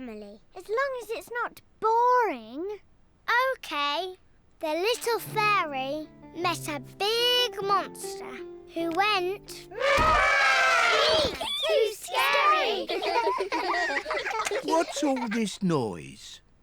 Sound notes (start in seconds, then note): 9.7 trumpets; 12.0 all laughing